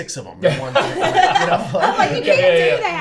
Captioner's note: everyone laughing